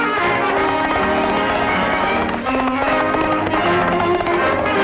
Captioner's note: horse galloping